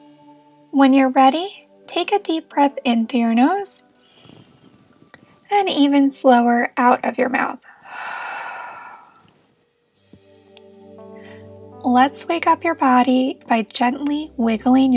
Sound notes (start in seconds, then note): 7.6 exhales